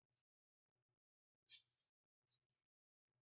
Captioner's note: silence